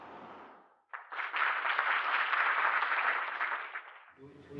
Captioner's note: applause